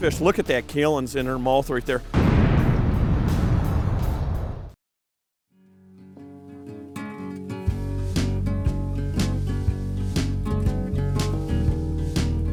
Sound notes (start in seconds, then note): 2.1 explosion; 5.6 soft guitar chords